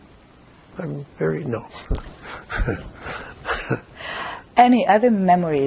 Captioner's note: laughing